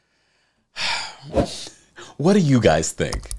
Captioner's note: exhales sharply